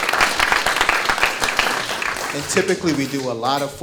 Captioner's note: audience clapping